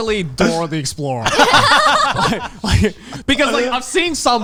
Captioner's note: all laughing